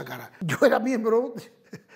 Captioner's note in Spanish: Ríe